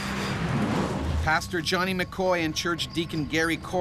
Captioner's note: voiceover